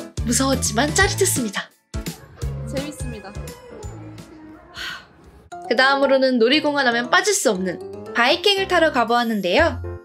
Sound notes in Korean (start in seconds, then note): 4.7 한숨 소리